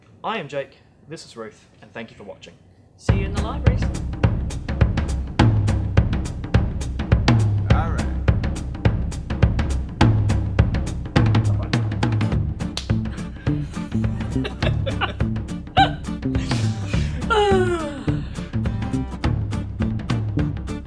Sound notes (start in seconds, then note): 13.2 laughter; 16.4 sigh